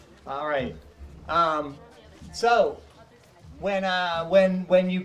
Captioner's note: none